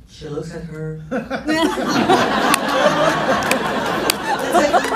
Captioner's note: laughs